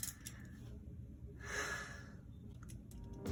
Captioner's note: sigh of relief